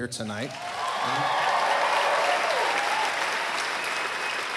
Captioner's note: cheering